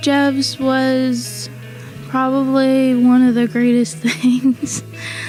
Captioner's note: uplifting music; laughs